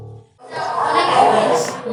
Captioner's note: crowd noise